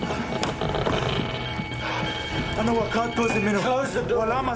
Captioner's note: device crackling